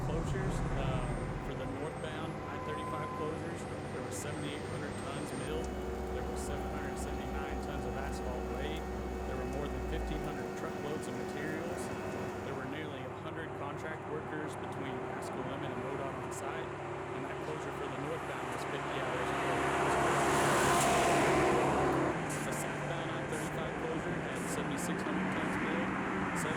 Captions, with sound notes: closures for the northbound I-35. There we 7,800 tons milled. There was 779 tons of asphalt weighed. There were more than 1,500 truckloads of materials. There were nearly 100 contract workers between Haskell Lemon and load on the sight. And that closure for the North bound was 50 hours closed [CONSTRUCTOR SOUNDS] A southbound I-35 closure and 7,600 tons,